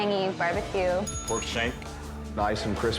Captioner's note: bell rings